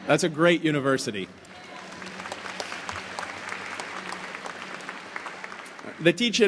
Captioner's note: applause